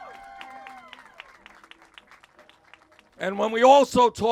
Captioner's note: cheers